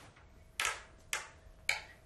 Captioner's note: silent rattling